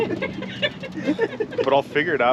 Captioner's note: laughing